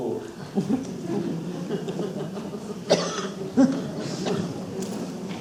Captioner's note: audience laughs